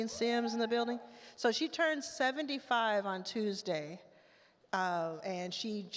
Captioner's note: audience member cheers